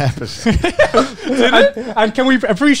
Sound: laugh

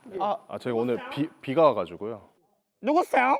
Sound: stuttering

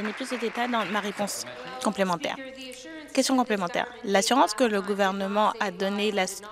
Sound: applause

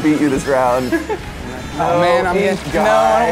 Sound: chuckles

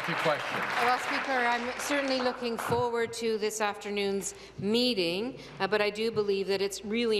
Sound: applause

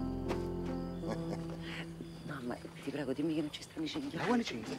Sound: dante laughter

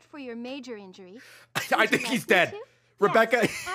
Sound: laughs

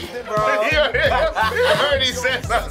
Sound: chuckles; laughs

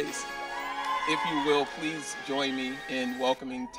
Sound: audience cheering

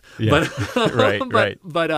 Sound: laugh

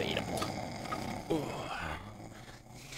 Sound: snort

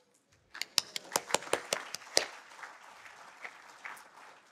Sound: audience applauding

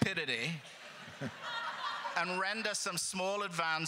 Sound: crowd laughter

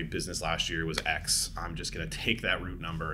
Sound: claps

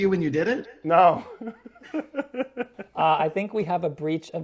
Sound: laughs

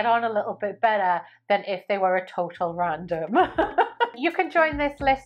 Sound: laughs

